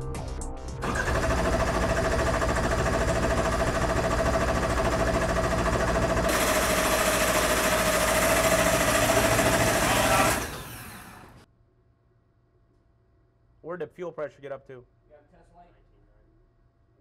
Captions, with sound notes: (car engine roars) - Where did the fuel pressure get up to?